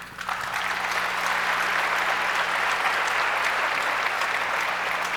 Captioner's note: audience applauds